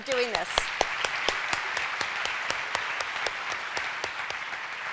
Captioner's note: applause